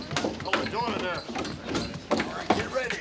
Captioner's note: townsfolk chatter